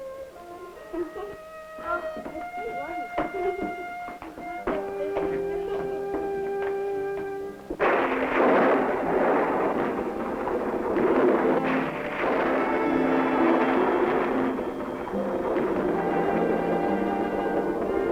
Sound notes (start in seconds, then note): 7.5 thunder roaring